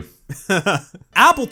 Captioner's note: laughs